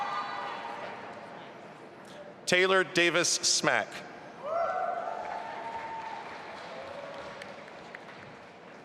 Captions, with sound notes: Taylor Davis Smach. (audience applauding)